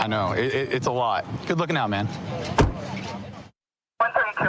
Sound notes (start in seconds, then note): 2.4 car door closing